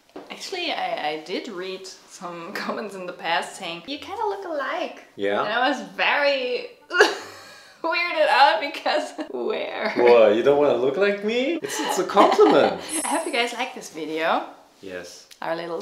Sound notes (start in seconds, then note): 13.0 chimes